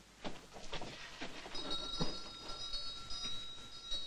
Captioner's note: bell jangling